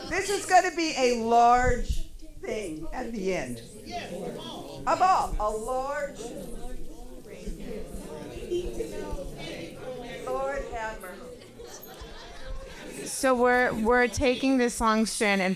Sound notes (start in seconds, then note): 6.7 paper crinkling and audience chattering